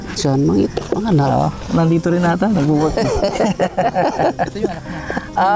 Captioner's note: laughs